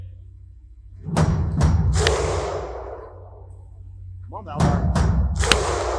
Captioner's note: thunderous clapping over the PA